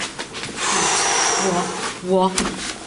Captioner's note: exhales